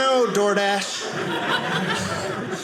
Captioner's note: audience laughing